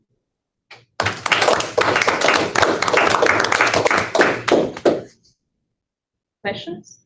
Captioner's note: applause